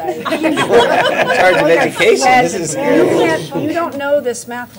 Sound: laughter

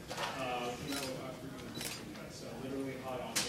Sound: speaker drowned out by camera shutters clicking

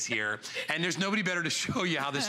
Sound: laughter

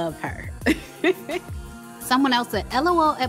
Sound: lightly chuckles

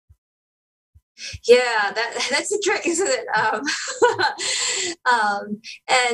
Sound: laughter

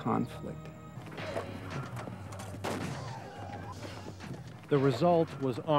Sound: gun fire

